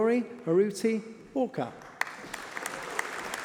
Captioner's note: applause